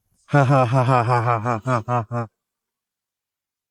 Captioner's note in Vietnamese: tiếng cười